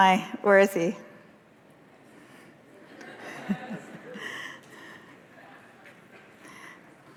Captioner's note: laughter